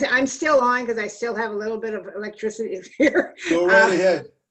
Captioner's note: laughter